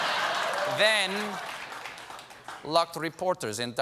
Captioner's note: laughter